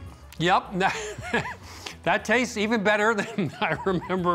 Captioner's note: laughing